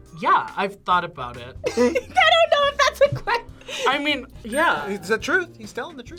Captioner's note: laughs